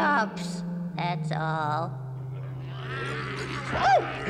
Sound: murmuring

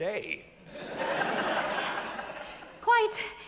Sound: audience laughs

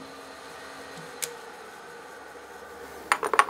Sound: machine is switched off

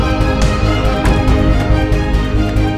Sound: door closes

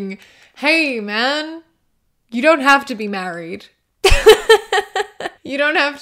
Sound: laughter

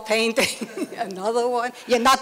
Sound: laughter

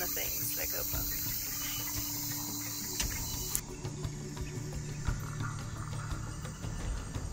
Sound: insects trilling; lively music

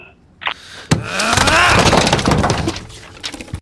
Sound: aggressive grunting

